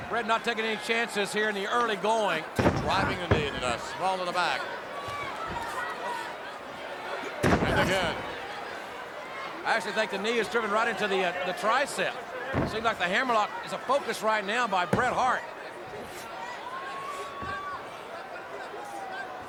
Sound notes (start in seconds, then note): 7.4 knee slamming